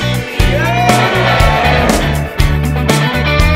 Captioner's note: cheering